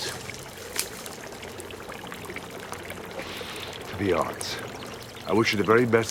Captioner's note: sniffs